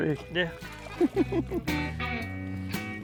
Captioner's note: laughing; relaxed country music